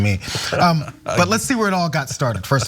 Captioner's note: laugh